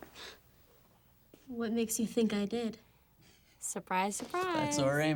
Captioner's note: scoffs